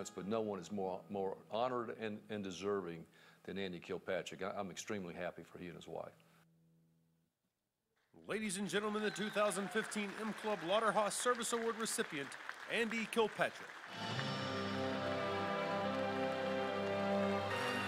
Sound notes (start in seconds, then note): 8.3 voiceover; 13.8 congratulatory music